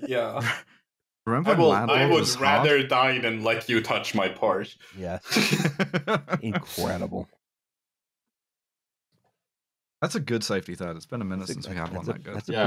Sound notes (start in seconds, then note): 8.6 laughter